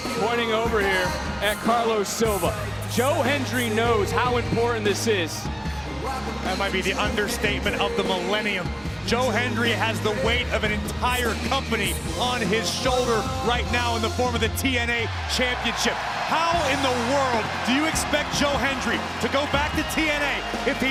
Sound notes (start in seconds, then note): 16.0 crowd cheer